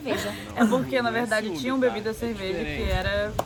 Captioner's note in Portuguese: laughing